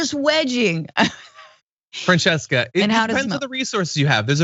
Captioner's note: laugh